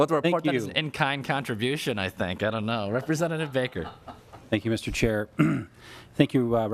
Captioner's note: laughing